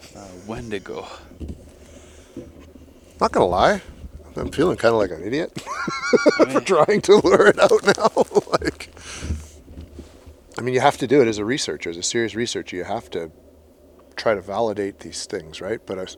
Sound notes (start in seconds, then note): 8.2 laughs